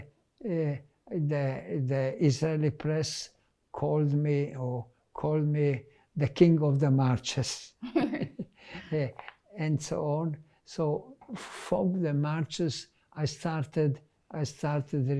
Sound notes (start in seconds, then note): 7.9 laughing